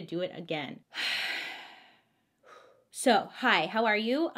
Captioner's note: exhales deeply